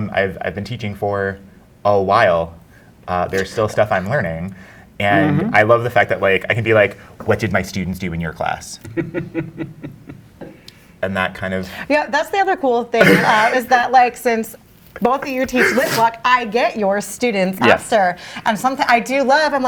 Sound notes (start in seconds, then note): 9.0 guy chuckles